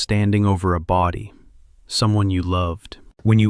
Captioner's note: sorrowful